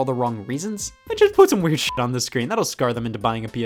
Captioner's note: beep